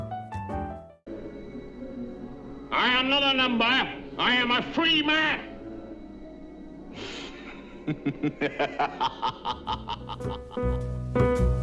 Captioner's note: laughs